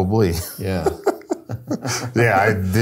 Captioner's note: both laugh